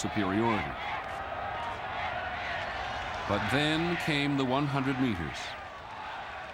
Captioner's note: applause